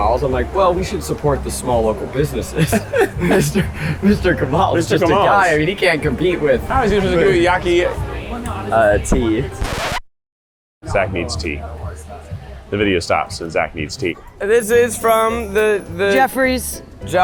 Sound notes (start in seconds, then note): 2.5 both laugh; 9.1 record scratch